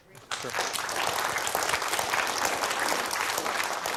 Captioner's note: applause